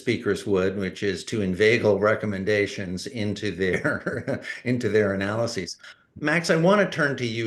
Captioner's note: laughs